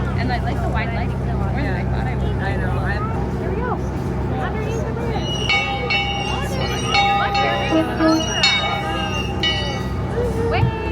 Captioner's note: bell sounds, horn sounds